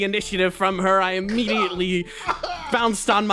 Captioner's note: Pained Yaiyo noises